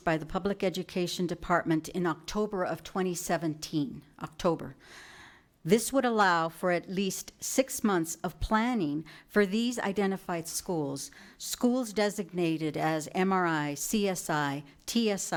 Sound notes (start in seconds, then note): none